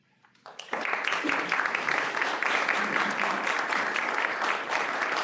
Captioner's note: applause